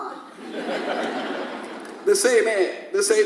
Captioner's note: audience laughs